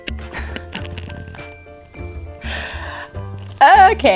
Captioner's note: laughs